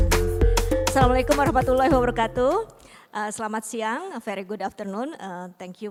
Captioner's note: non-english speech